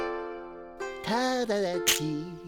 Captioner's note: humming